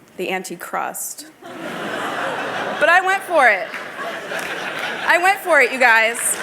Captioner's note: laughter